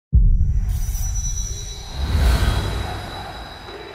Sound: air whooshing; crowd

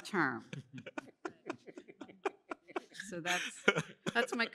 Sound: laughter

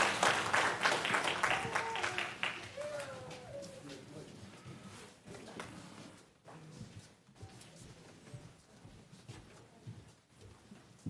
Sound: applause

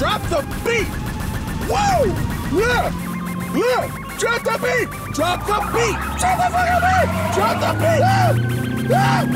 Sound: screams

